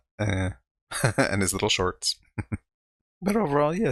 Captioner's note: chuckling